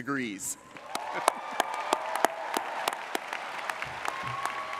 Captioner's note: audience applauding